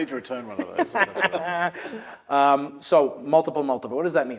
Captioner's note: laugh